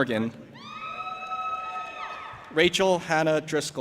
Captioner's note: audience applauding and cheering